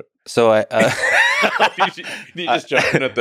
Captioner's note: both laughing